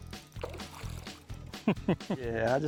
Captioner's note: water splashing; laughing